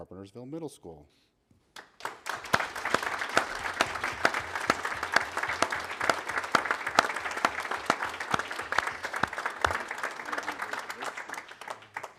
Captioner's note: applause